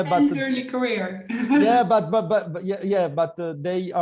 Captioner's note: chuckles